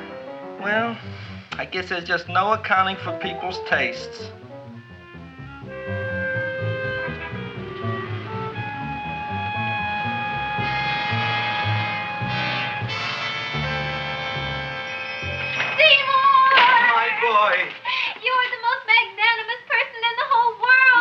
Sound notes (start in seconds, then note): 4.4 anticipatory music; 14.4 shop bell chimes